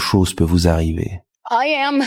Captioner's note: french dialogue continues